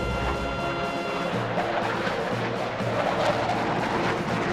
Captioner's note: aircraft whirring